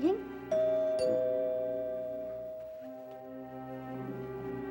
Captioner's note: door bell